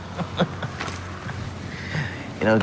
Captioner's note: chuckles